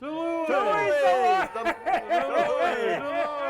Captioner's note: crowd cheers